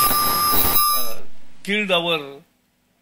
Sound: audio disturbance

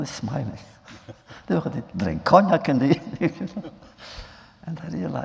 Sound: laughs

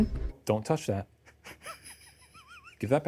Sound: laughs

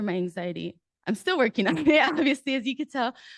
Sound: nervous laugh

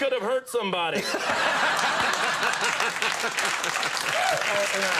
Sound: audience laughing

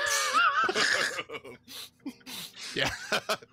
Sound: all laugh

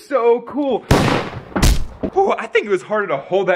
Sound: gunshot and thud

